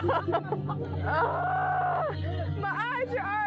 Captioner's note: women laughing; sighs in distress